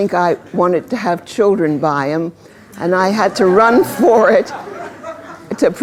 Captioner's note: laughter